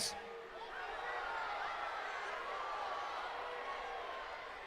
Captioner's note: crowd shouts and boos